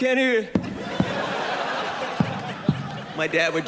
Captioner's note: bangs mic